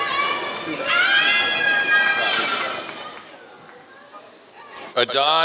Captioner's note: applause